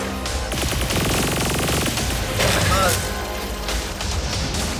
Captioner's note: gun firing